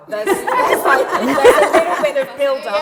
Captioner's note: laughter